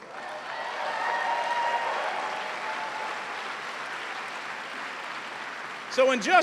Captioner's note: cheers and applause